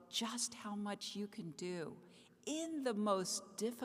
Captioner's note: none